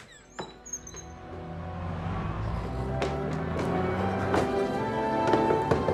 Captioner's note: car leaving